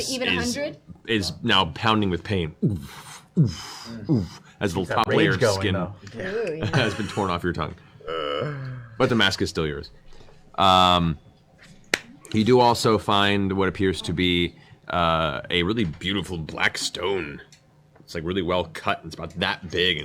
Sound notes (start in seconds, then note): 2.4 throbbing